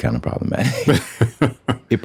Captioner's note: laughter